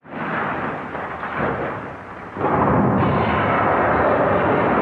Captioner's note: whirring crashing